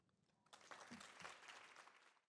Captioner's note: audience applauding